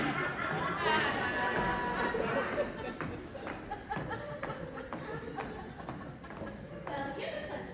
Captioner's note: laughter